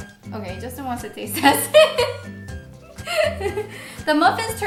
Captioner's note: laughs